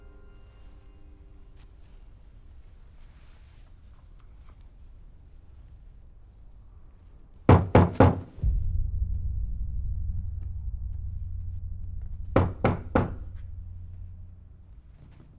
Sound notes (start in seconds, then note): 7.5 knocks on door